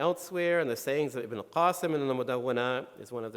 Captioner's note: speaking in foreign language